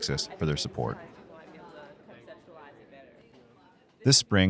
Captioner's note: chatter